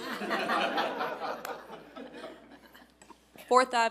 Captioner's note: audience laughing